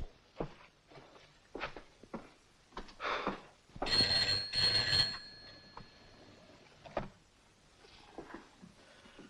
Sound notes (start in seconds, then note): 3.0 Len sighs; 3.8 telephone rings